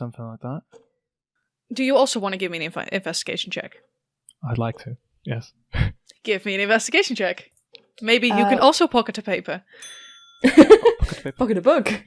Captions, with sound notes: something like that. Do you also want to give me an Investigation check? I'd like to, yes. Give me an Investigation check. Maybe you can also pocket a paper. [laughs] Pocket a paper. Pocket a book.